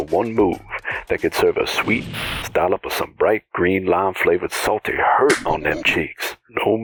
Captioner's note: static